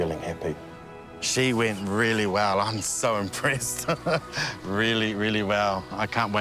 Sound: laughs

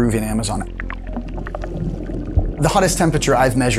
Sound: bubbling water

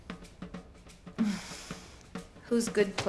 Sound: sighs

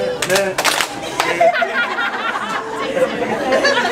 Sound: clapping; laughing

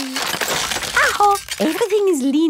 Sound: house creaking

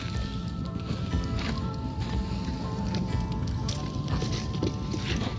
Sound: fire crackling

